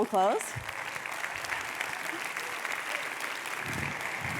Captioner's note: audience clapping